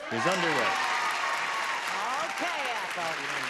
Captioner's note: cheering and clapping